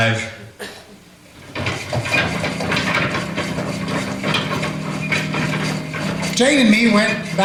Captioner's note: wagon wheels rolling away